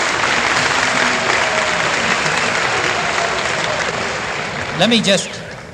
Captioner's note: applause